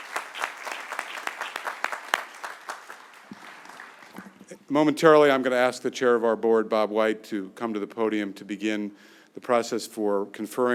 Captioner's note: applause